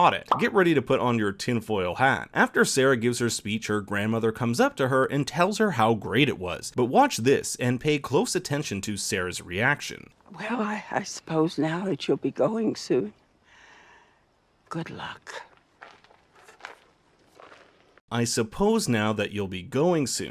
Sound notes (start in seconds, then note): 14.0 silence; 16.1 silence